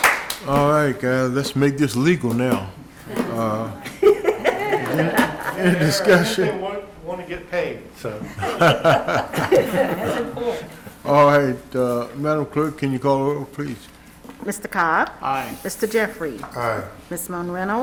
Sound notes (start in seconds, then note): 0.0 applause